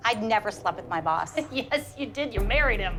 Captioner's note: laughs